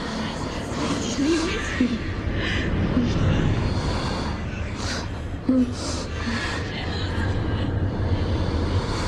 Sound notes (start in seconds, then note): 4.4 moaning